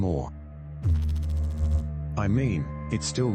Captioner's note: electrical noise